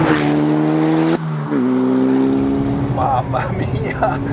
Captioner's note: engine sound